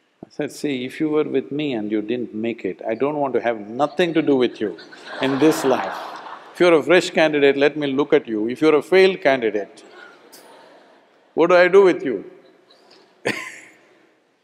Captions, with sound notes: I said, “See, if you were with me and you didn't make it, I don't want to have nothing to do with you (Laughter) in this life. If you are a fresh candidate, let me look at you. if you're a failed candidate, (Laughs) what do I do with you?” (Laughs)